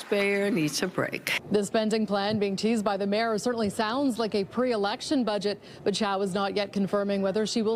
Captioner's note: applause